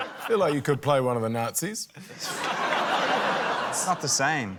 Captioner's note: laughter